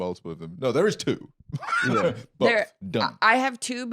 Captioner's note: laughs